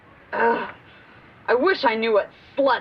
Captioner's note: groaning